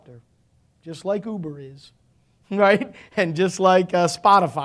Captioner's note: chuckling